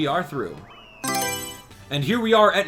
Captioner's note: Mario Selection Sound